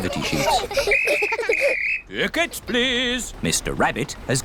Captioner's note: blows whistle